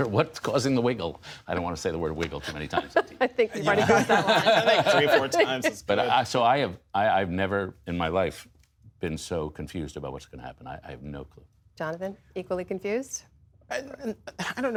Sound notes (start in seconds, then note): 3.5 laughter